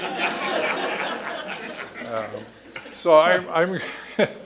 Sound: laughter

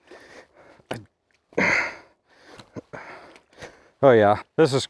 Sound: grunting

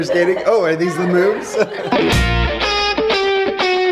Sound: laughs

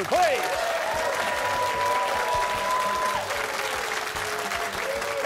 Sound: cheers and applause

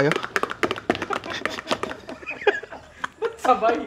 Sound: laughter

